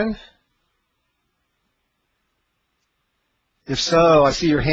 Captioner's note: silence